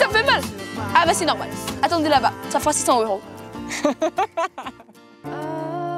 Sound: he laughs

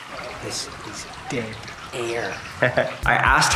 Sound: chuckles

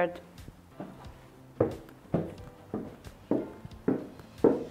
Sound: hollow footsteps

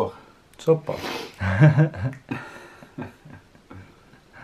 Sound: laughing

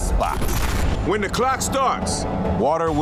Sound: ominous music; lightning crashing

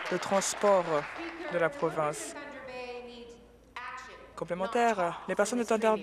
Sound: applause

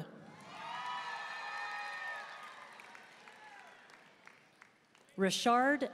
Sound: audience cheering and applauding

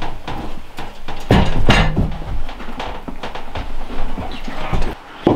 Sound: boots clattering

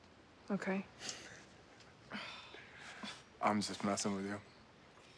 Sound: chuckling; scoffs

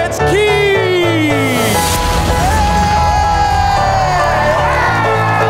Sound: crowd cheering

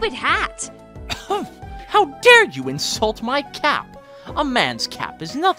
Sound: gasp

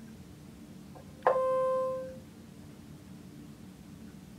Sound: machine beeping

